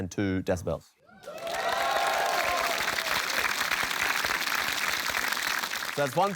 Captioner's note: cheering, applause